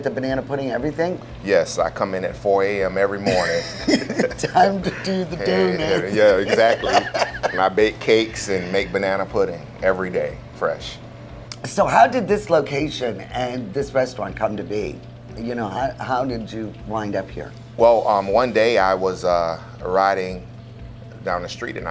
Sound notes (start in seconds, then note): 3.2 both laugh; 6.5 laughs